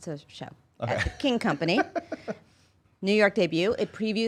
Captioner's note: laughs